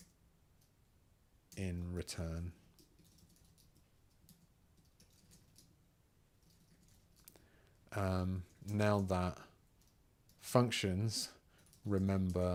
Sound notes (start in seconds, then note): 3.3 silence